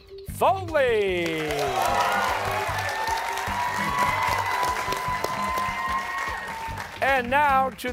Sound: cheers and applause

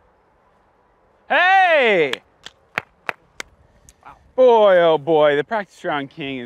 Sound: claps

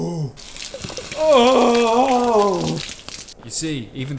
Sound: moaning

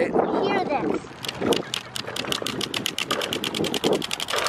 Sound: card flaps

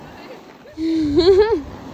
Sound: laughs

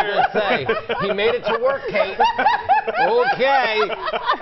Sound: laughing

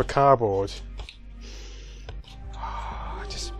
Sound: sniffffff

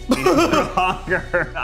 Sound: laughing

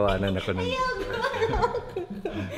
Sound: laughs

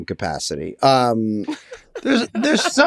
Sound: laughs

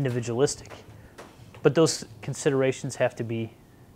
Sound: none

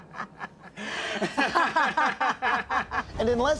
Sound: laughter

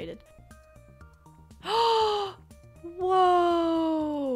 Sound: gasp

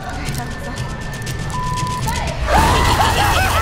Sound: beep; scary laugh

